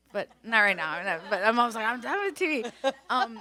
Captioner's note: everyone laughs